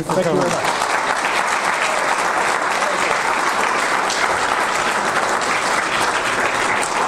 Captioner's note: audience applause